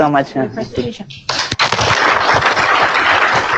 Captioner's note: applause